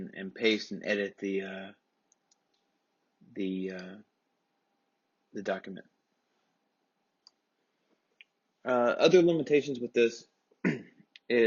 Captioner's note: cough